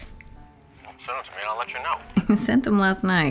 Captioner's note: hawk on phone